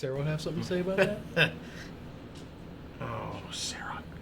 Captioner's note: Jack laughs